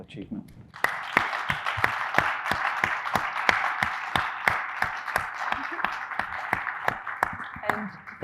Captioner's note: audience applauding